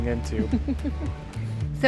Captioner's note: laughs